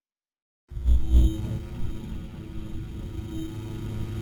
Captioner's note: buzzing